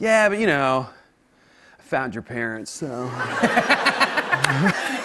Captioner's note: laughter